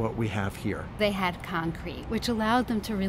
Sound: voiceover

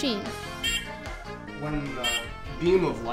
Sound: beeping

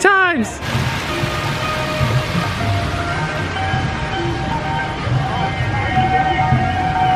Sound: water splashing

